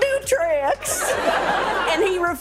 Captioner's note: audience laughing